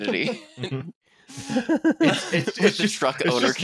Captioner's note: laughter